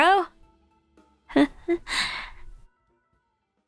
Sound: nervous laugh

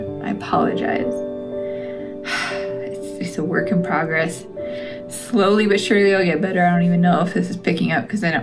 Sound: heavy sigh

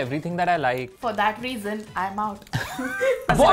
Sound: both laughing

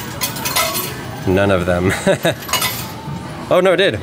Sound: laughs

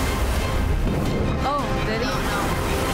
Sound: urgent music; water gurgling

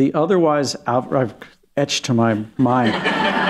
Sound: laughter

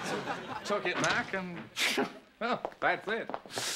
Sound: scoffs

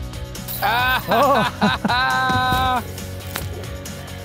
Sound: basket chiming; both laughing

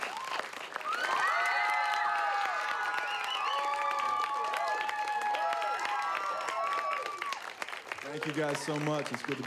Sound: cheering

